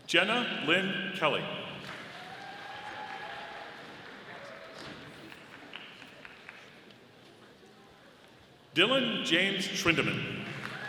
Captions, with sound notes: Jenna Lynne Kelly. (audience applauding) Dillon James Schwendeman.